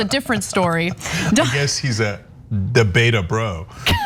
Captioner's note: laugh; laugh